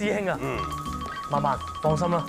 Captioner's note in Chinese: 電話鈴聲